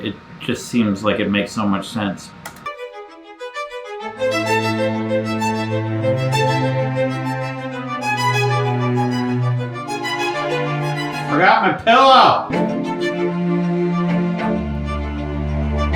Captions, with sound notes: it just seems like it makes so much sense. (tab clicks) (upbeat classical music) Forgot my pillow! (upbeat classical music)